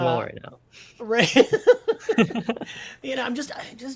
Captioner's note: all laughs